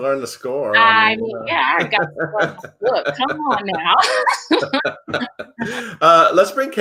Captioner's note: laughs